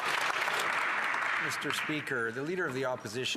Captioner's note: some Applause